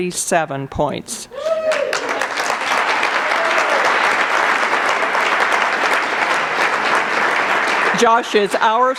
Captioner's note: cheers and applause